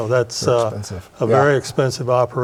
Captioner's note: laughs